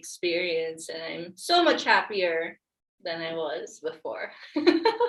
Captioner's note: laughs